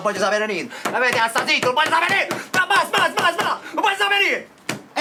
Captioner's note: screaming